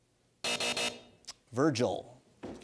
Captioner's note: buzzer